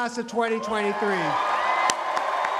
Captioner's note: cheering and applause